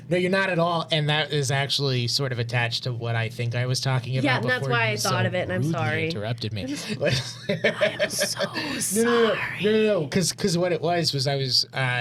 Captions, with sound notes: No, you're not at all. And that is actually sort of attached to what I think I was talking about before. Yeah, that's why I thought of it, I'm sorry. You interrupted me. (Laughing) I am so sorry. No, no, no, no, no, no, no, because what it was was I was,